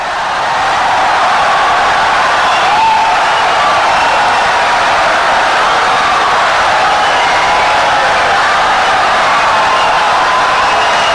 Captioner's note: wild applause and cheering for 17 seconds